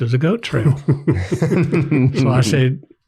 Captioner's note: everyone laughs